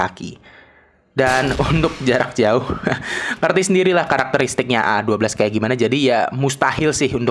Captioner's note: chuckles